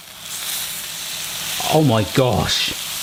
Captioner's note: steak sizzling